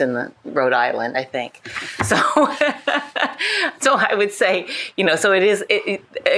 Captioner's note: laughs